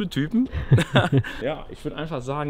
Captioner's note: chuckle